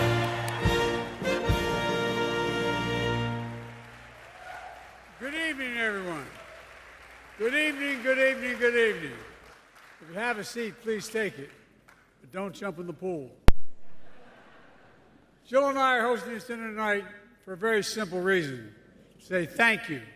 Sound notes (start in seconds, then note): 13.9 laughter